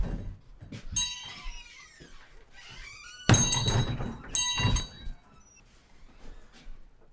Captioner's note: door opening and closing; door closing; bell ringing